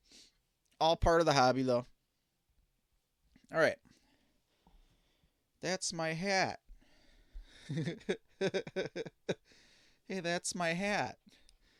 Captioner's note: laughing